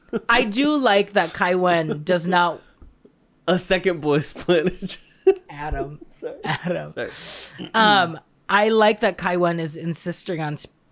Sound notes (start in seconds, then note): 7.2 sniffs